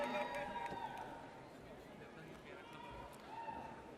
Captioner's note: audience cheers